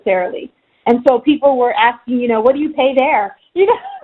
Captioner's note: laughing